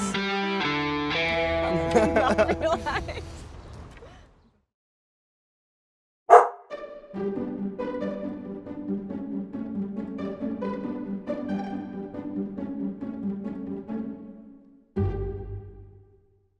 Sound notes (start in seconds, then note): 1.6 students laughing